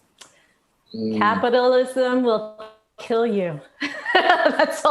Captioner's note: laughs loudly